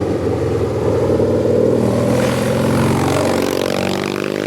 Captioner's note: engine roars